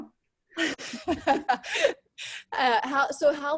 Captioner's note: laughs